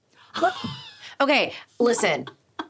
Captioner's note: laughing